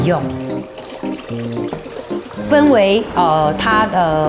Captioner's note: water splashing